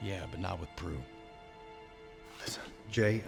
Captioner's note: whispers